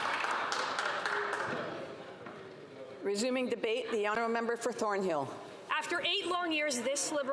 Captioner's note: applause